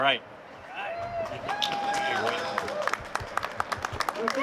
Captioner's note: cheering